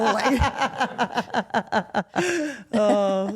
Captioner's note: Steph laughs